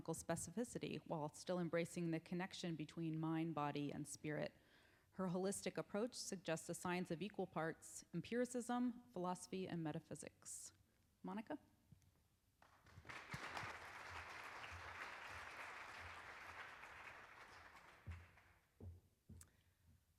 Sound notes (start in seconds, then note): 12.6 applauding